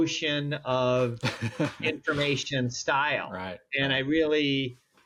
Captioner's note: laughs